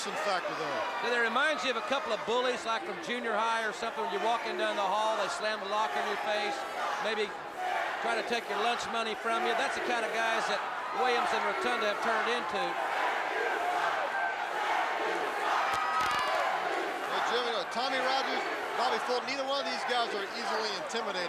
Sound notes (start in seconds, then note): 0.0 crowd chatter; 14.1 crowd cheering